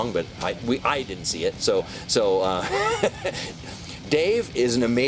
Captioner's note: laughs